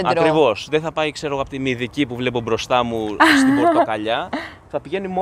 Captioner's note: laughs